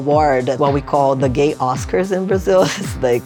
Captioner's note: laughing